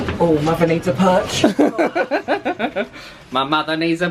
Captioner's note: laughs